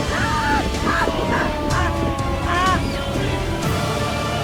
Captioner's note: intense music; gasping; intense music